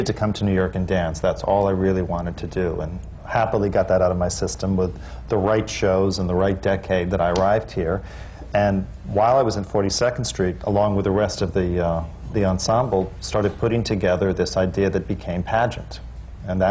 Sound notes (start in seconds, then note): none